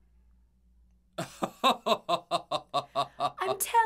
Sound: father laughing

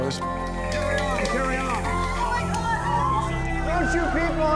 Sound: people clapping and cheering

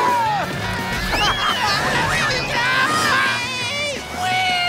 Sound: yelling

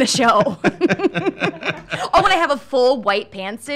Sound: laughing

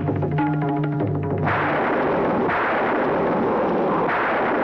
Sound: thunder Rumbling

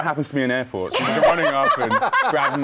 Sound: laughter

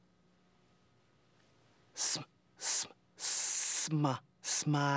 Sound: sounding out word

